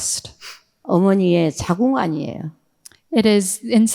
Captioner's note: speaking in foreign language